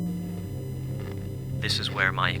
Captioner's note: static